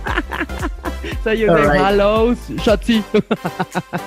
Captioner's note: speaks german